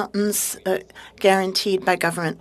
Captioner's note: speaking French